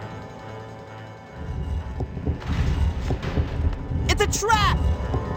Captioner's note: sounds of stone doors closing